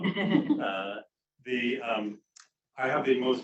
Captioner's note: crowd chuckling